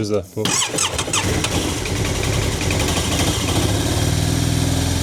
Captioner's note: engine noise